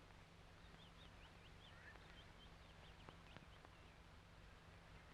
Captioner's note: birds chirping